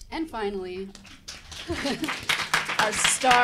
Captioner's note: audience applauding